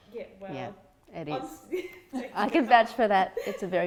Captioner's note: laughing